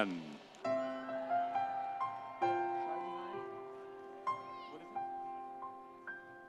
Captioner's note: audience applauding; soft music